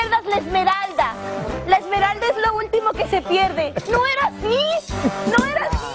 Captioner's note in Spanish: risas